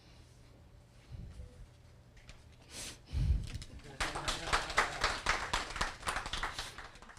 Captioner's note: audience applause